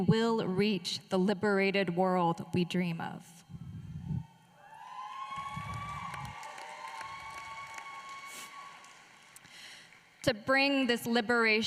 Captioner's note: applause